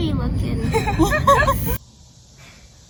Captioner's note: laughing